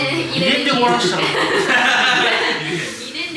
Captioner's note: laughs